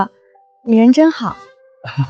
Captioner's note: cough